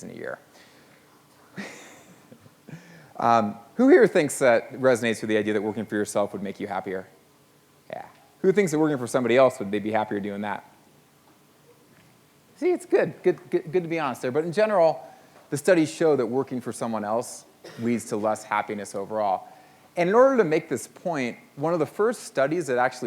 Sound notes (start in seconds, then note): 1.5 laughs